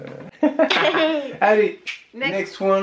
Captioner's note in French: rires